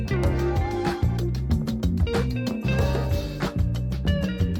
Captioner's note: none